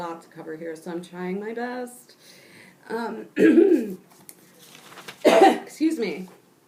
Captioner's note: coughs